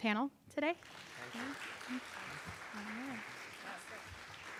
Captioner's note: audience applauding